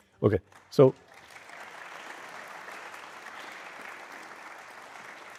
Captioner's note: audience applauding